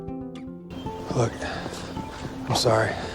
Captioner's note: voiceover